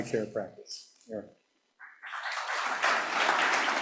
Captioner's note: applause